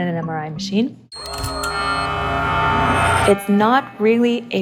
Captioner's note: loud metallic sounds